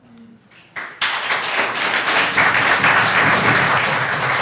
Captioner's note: applause